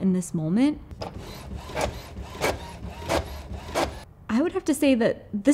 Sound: printer whirring

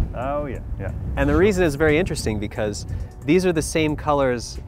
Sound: none

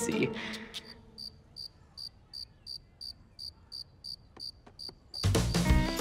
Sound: crickets chirping

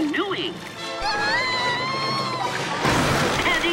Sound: screaming

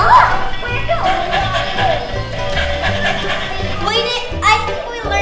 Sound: dog panting

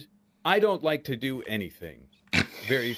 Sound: laughing

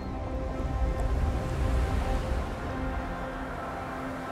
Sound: waves lapping

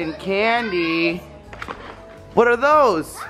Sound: shouts

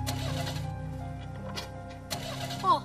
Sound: car engine clicking

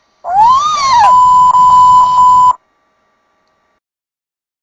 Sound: 5 bleeps of pain

